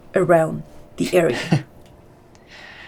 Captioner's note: Colin laughs